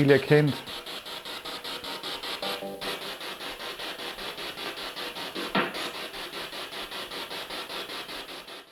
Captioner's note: sound of the Spirit Box in the background